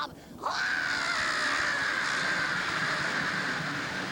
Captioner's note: shrieking